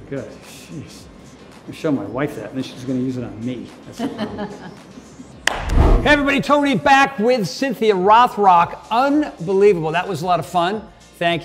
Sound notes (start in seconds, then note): 4.0 Cynthia laughs; 5.4 Tony claps; 5.4 air whooshing